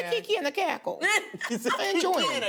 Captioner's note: laughter